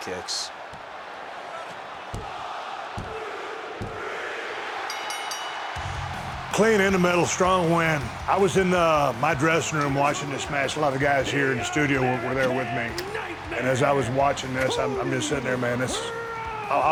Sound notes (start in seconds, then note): 4.6 audience cheering; 4.8 bell rings; 6.1 upbeat rock music